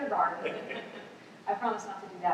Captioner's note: laughter